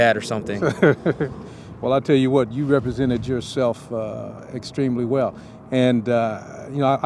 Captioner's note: laughs